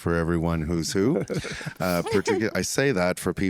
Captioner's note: all laugh